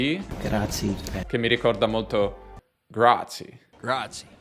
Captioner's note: with a strong US accent